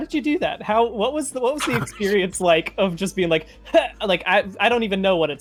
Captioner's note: grunts